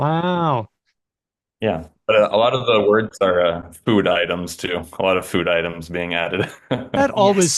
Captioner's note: laughs